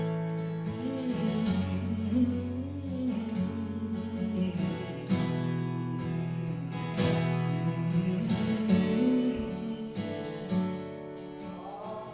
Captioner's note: humming